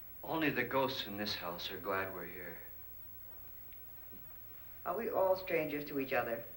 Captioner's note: none